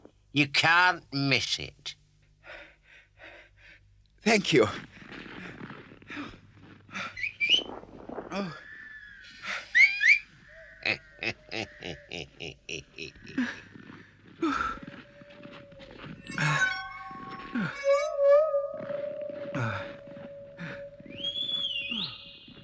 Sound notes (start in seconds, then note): 2.4 breathes heavily; 5.2 breathes heavily; 7.1 whistles; 9.7 whistles; 10.7 weasel snickers; 14.1 huffs; 15.0 howling in the distance; 20.4 whistles